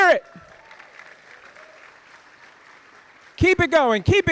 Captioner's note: audience applauding